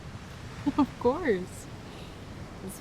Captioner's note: Fern laughs